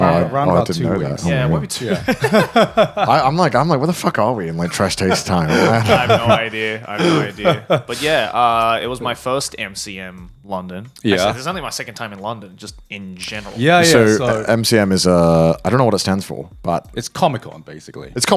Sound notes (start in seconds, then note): 1.2 laughing; 5.0 laughing